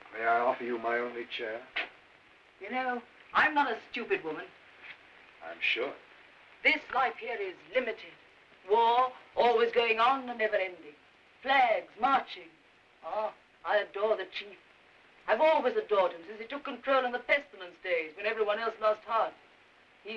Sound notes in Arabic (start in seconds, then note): 12.9 يسخر